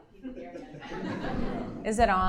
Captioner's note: audience laughing